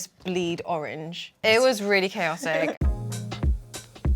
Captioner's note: laughing; upbeat music